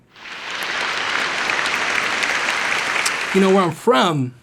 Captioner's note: applause